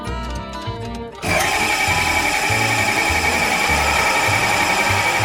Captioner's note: machine blaring